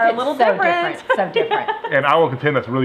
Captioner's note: laughs